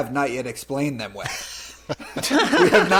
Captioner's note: laughter